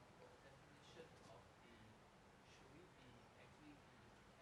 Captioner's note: speaking faintly